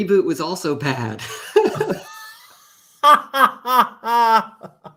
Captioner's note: laughter